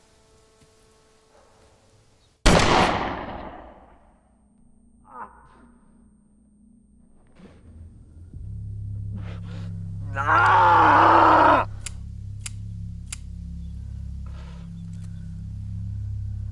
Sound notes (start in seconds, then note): 2.4 gun shot; 10.1 cries out in agony; 11.8 empty barrel clicks